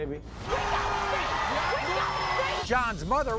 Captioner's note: yelling